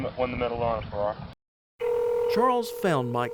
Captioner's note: phone ringing